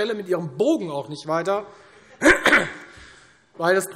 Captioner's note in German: Heiterkeit